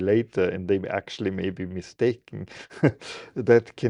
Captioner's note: laughing